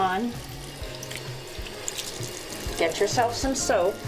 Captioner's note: sound of water faucet